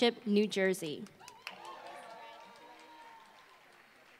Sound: applause

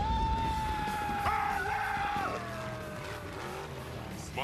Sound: screaming

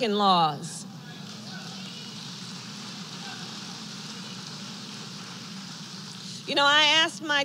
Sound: applause

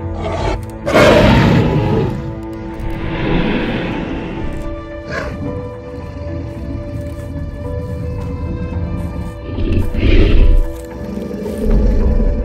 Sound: dinosaur Growling

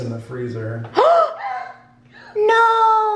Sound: woman and children gasp

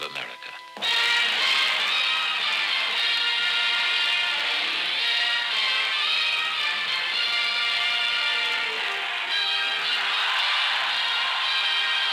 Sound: cheers

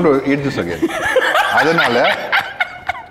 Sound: laughs

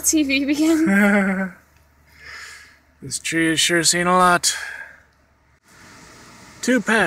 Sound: laughs

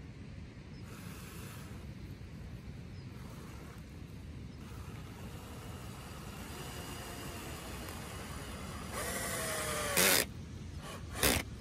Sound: power drill noise

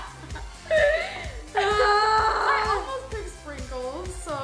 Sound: laughs; cries out

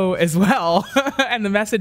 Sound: laughs

